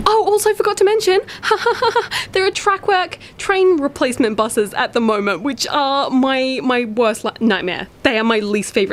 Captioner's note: strained sarcastic laughter